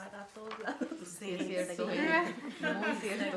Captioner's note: group laughs